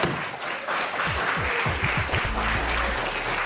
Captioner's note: applause